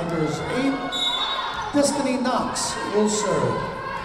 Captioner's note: whistle blowing